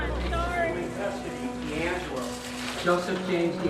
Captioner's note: chattering